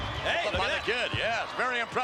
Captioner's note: Jerry mumbling